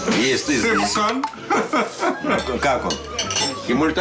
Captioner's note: chuckles